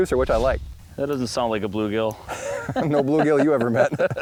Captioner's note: laughs